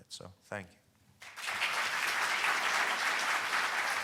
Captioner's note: applause